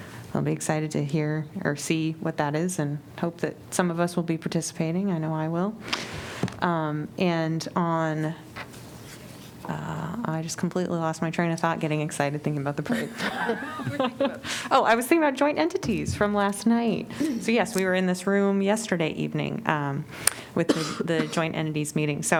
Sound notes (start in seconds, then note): 12.8 laughter